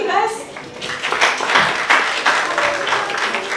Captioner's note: applause